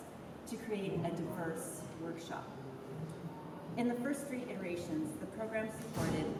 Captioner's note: none